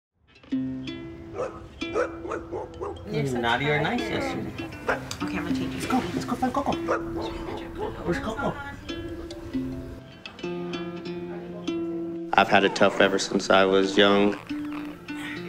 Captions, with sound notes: (soft guitar music) (dog barking) - It's a naughty or nice issue. Let's go, let's go play Cocoa. Where's Cocoa? I've had it tough ever since I was young.